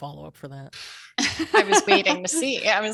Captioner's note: panelists laugh